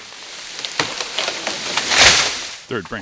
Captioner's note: tree falling